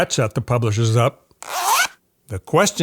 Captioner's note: audio zipping